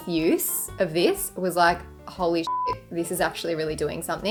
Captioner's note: beep